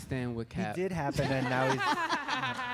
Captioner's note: laughter